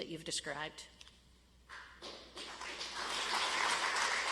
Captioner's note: audience applauds